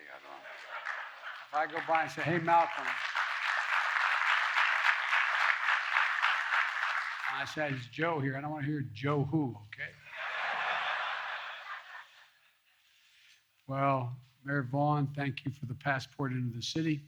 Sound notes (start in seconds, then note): 3.4 applause; 10.0 laughter